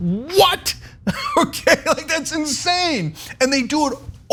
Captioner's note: laugh